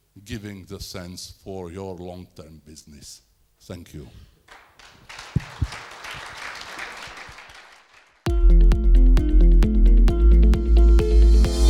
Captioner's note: applause